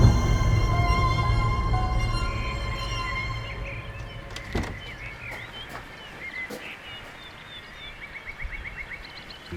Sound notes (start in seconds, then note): 1.9 birds chirping